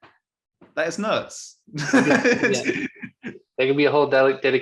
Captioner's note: chuckles